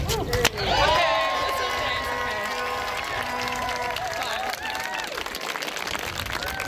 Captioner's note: cheers